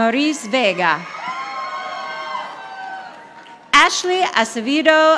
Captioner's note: audience applauding